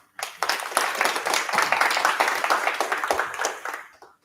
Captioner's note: applause